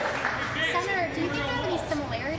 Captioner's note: applause